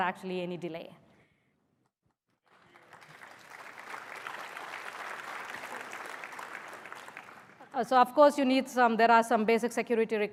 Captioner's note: applause